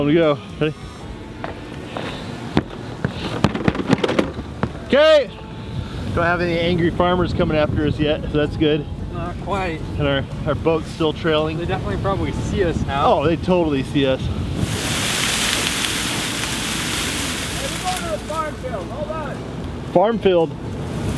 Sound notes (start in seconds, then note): 3.0 feet stomping; 14.5 grass falling